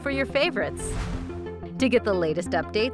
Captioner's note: whooshing